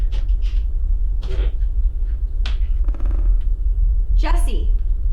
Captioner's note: floor creaking